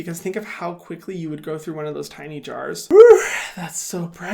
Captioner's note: gasps